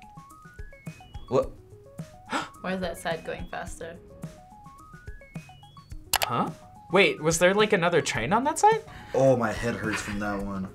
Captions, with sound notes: - Wha-- - (gasps) - Why is that side going faster? - Huh? Wait, was there another train on that side? - Oh, my head hurts from that one.